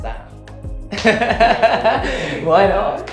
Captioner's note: laughs